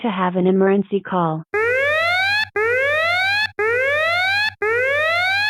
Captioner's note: alert sound plays